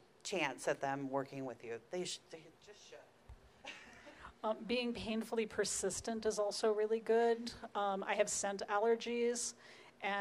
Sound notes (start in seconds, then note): 3.6 laughing